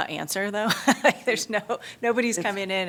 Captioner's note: laughter